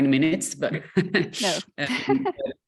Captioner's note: chuckling